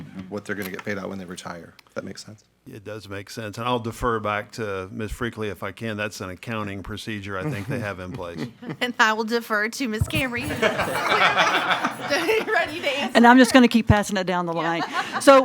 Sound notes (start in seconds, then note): 10.2 laughing loudly; 12.3 murmurs